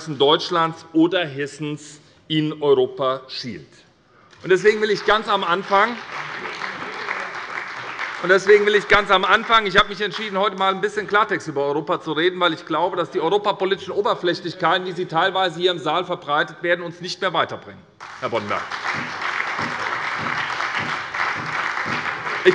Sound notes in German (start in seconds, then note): 4.3 Beifall bei der SPD; 18.0 Beifall bei der SPD und der FDP